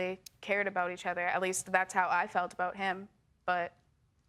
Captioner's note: none